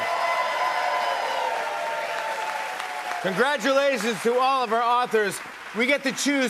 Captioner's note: applause; cheers and applause